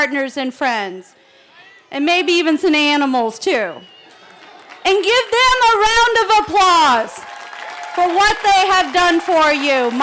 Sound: cheering

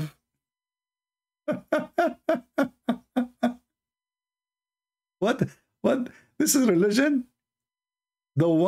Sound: Ketawa

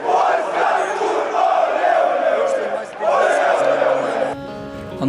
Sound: fans yell. Polish "kurva"! Ole-ole-ole!

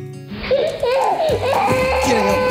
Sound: baby crying

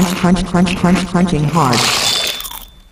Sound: crunching Sounds

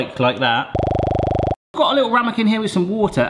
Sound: popping sound

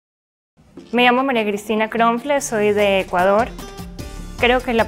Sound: speaking in Spanish

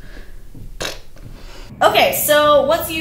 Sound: blows raspberry

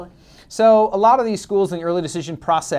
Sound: voiceover

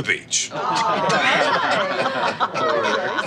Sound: laughs

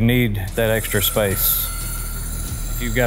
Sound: gadget whirring

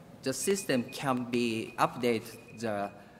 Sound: timer ringing

